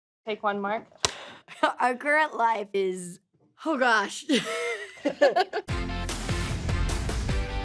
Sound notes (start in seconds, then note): 4.3 both laugh; 5.6 upbeat music playing